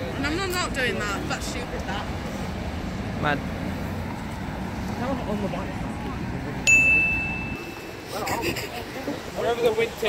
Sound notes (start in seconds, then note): 8.6 wheeze